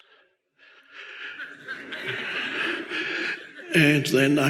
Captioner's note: audience laugh